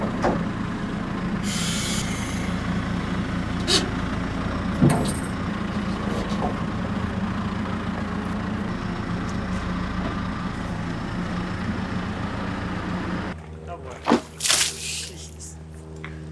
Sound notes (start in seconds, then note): 4.0 metal creaking; 14.0 water sloshing